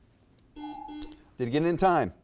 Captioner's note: buzzer beeps beeps